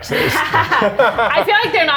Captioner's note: laughs